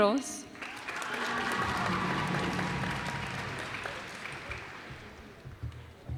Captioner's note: cheers and applause